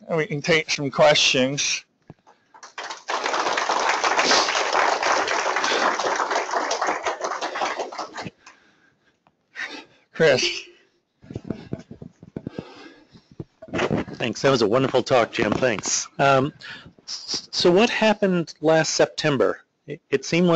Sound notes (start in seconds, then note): 2.5 applause